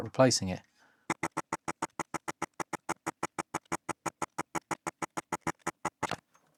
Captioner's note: typing